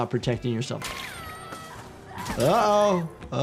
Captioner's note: Lily Lovebraids screaming